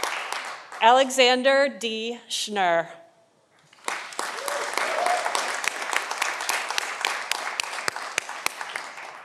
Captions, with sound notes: Alexander D. Schnur (audience applauding)